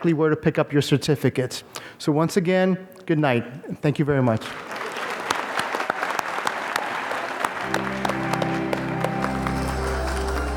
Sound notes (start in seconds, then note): 4.4 applause; 7.9 organ music